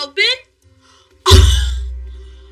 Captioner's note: excitited exclamamation